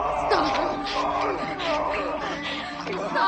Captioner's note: John groaning